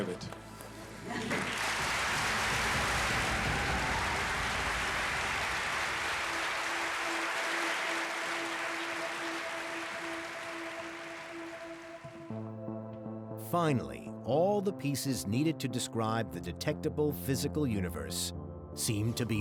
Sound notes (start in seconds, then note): 2.1 cheers and applause